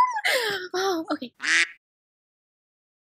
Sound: gasp; quack

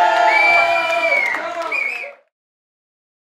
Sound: all cheer

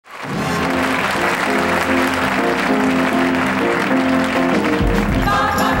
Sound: audience applauds

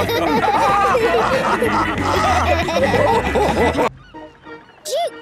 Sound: all laughing

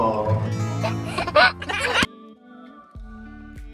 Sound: laughing

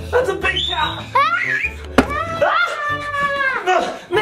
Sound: screams

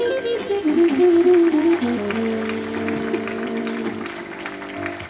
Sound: audience applauding

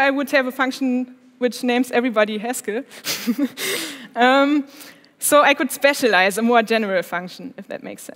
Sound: laughs

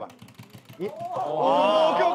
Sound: trotting

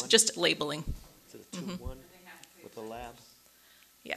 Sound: murmurs

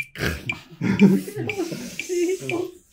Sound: laughing

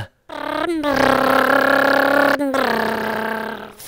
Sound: funny motor sound goes

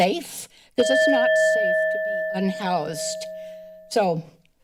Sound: alarm ringing

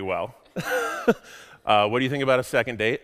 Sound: laughs

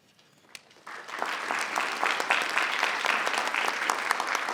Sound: crowd clapping

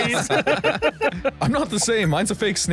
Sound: laughs

